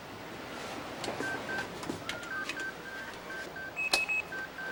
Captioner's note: beeping